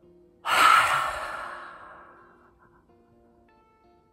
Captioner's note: loud exhale